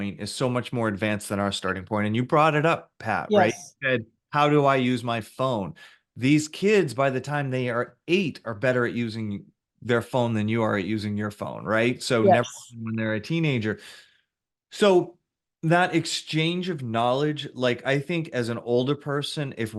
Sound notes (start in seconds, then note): 12.2 voice cuts out